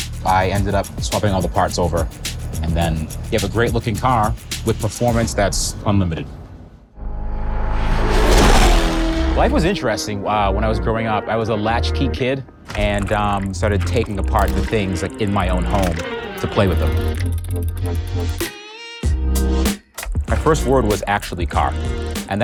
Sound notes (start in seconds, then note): 7.0 engine roars